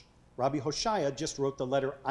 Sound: speaking foreign language

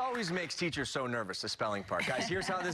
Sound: cheers and applause

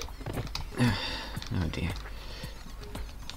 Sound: sigh

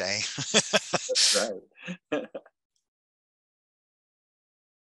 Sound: laughs; laughs

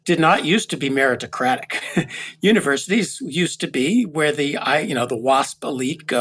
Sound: laugh

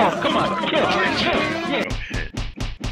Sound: chaotic chat

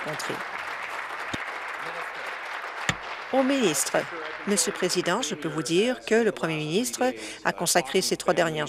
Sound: applause

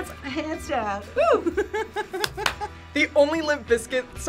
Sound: React laughs

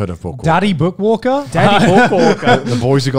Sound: laugh

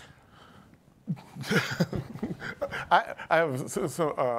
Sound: chuckling

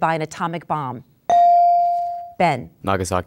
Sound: dinging

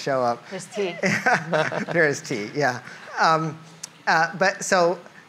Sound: laughs

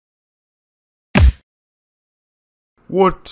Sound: thump

